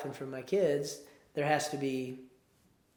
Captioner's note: none